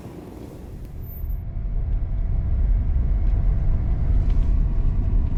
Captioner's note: car engine revving